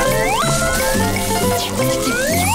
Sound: humming

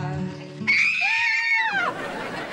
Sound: screaming

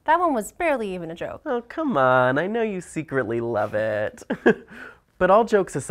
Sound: chuckling

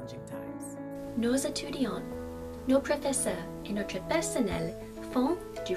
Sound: speaking in foreign language

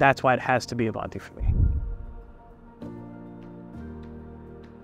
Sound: graphic whooshing

